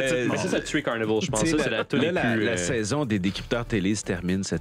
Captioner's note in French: rires